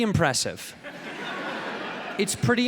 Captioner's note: audience laughing